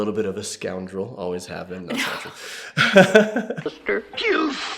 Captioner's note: laughs